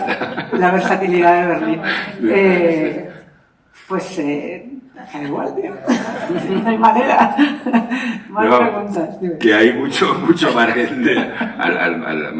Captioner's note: laughter